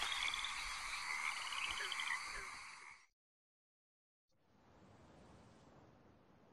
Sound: animals calling continues

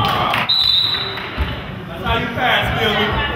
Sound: whistle blows

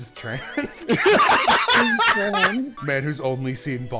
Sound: laughter

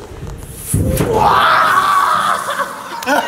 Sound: laughs

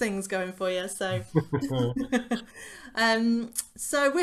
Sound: laughter

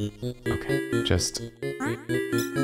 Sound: whispering

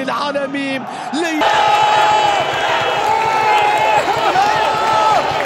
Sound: clap

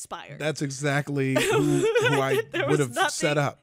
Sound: giggles

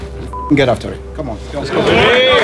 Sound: beep; people cheering

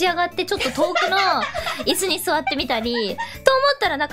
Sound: laughing

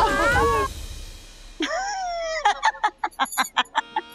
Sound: laughing

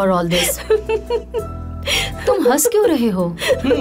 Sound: giggling; giggling

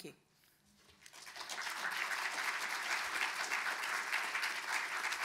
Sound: audience applauding

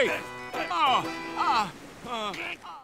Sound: groaning

